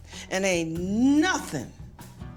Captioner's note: none